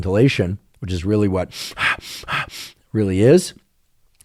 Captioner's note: breathing